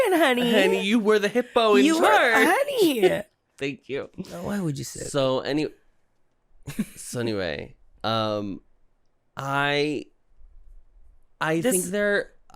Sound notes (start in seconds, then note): 4.3 quietly; 7.9 laughing